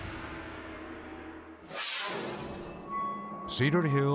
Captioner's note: video swooshing